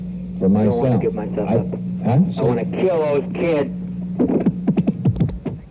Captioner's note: in a weak voice